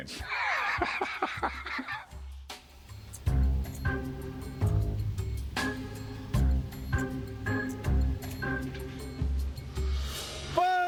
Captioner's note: laughs